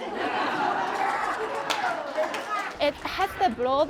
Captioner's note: crowd laughs